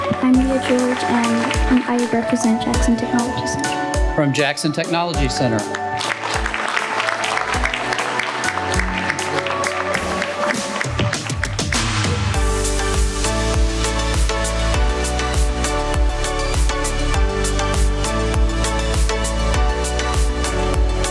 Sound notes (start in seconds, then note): 5.3 applause; 6.3 inspirational pop music